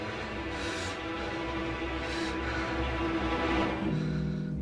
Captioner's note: breathes heavily